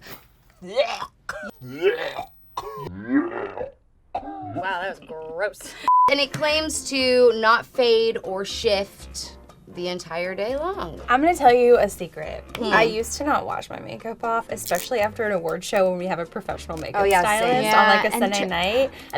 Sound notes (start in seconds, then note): 0.3 retches; 5.8 beep